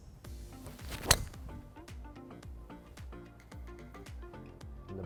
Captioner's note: club hitting